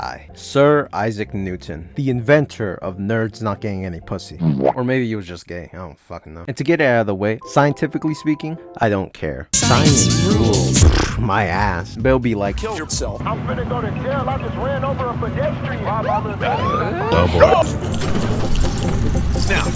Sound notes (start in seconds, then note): 10.2 pffft; 15.6 police siren; 17.7 starting up car